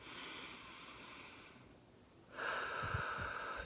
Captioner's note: inhaling; exhaling